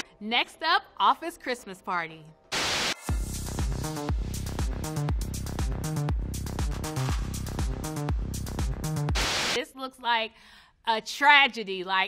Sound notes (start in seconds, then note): 2.5 TV static hisses; 2.6 up-tempo dance music